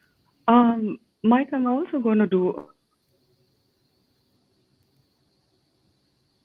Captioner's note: audio cuts off